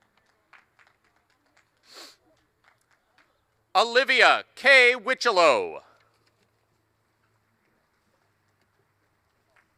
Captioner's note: applause; applause